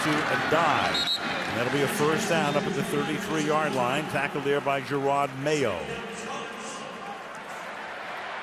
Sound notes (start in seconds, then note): 0.2 pa announcement; 2.0 crowd shouting